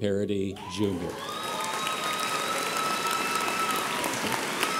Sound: audience applauds

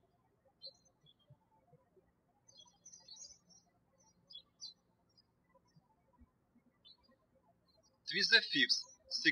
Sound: birds chirping

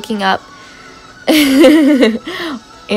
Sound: laughs

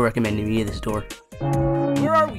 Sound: sounds of doom

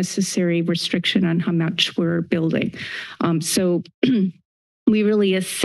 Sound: clears throat

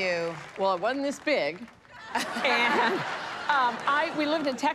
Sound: laughter

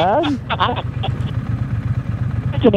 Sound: laughing

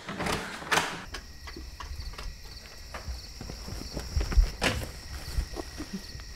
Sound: insects chirping; door clacking

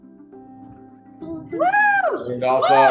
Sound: cheering

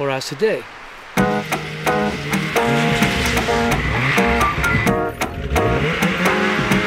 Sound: engine revving; upbeat music

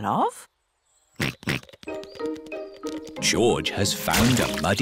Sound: snorts

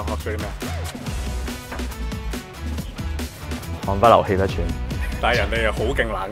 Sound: panting

